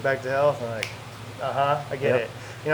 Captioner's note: snaps fingers